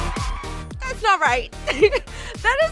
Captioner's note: laughs